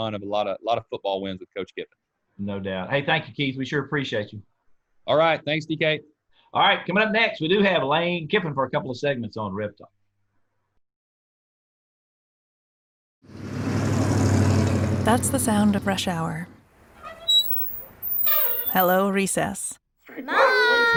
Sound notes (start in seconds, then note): 13.3 sound of motor; 16.8 sound of brakes